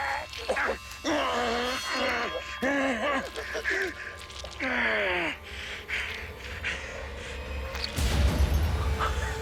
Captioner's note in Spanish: Gruñidos